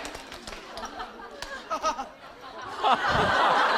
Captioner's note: haha